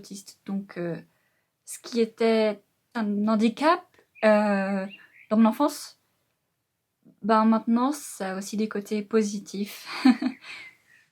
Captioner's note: laughs